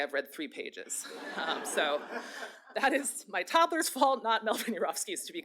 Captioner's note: laughter